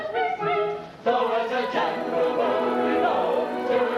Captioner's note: audience applause